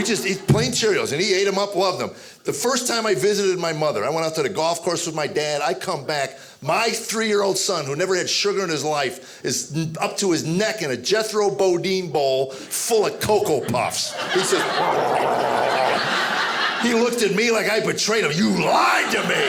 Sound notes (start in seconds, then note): 15.6 growling